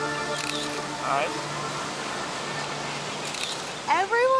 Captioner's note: bright ambient music; camera snaps